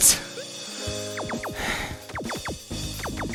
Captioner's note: breathing